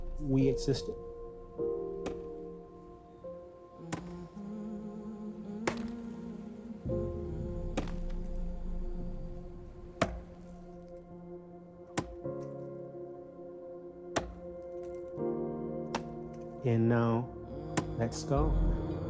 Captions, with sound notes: We existed. (somber humming music) (ax hacking tree stump) And now that's stopped.